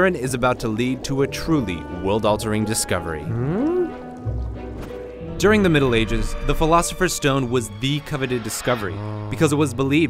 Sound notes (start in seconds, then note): 3.2 inquisitive grumble; 3.4 lively music